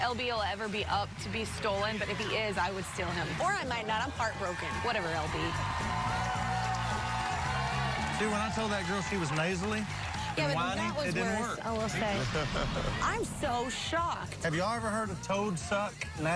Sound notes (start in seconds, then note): 5.8 cheers and applause; 10.3 chuckles